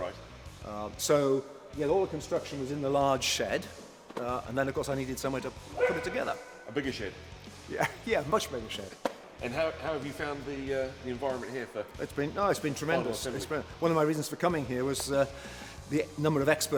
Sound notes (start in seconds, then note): 5.7 dog bark